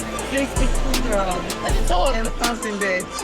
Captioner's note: group chattering; upbeat music